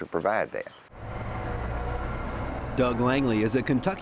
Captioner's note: hum of tractor